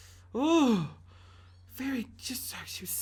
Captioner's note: sighing